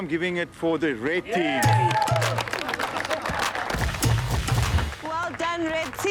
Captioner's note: Red Team clapping and cheering